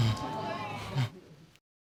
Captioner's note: audience exclaiming; chuckles quietly